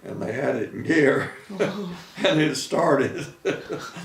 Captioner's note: laughing